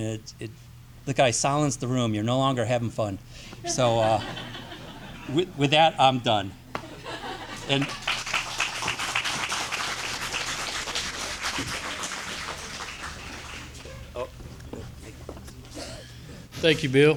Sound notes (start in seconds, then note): 7.0 audience applauding